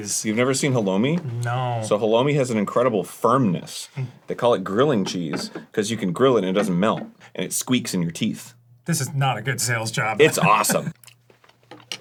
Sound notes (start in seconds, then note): 7.6 squeaks